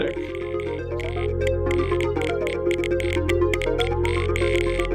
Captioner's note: electronics clicking